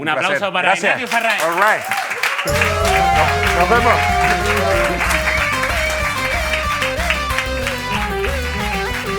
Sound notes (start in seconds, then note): 1.4 applause